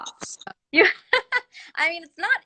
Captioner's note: laughter